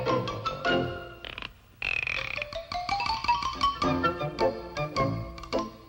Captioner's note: gears cranking lightly